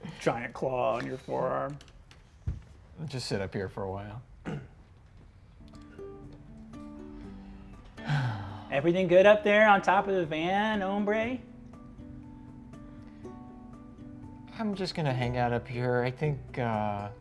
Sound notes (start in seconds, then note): 5.8 soft instrumental music; 7.9 sighs dejectedly; 12.2 soft instrumental music continues